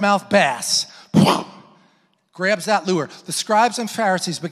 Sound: mimics impact hitting

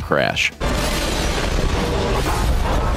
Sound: explosion sounds

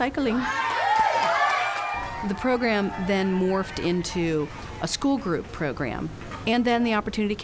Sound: cheers and applause

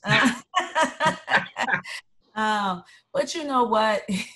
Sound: laughter

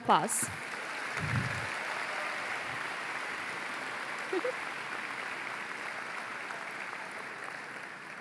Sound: applause

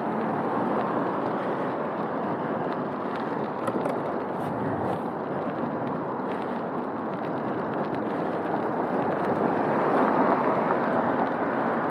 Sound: street noise, cars passing

